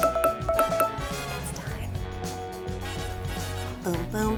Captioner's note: alarm plays